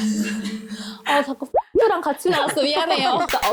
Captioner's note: leaked-out sound effect